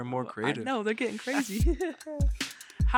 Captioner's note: both chuckle